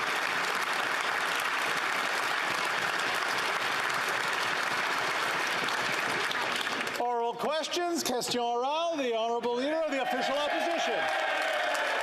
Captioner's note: some Applause